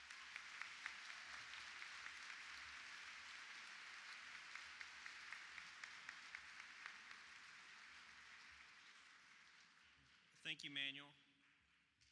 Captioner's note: applause